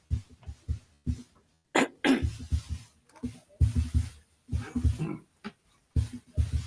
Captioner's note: attendees chattering; footsteps thumping